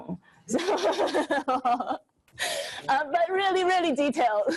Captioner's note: laughs